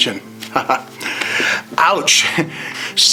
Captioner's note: laughs